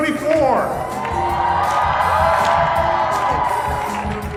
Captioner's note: cheering